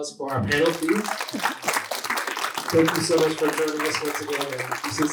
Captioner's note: applause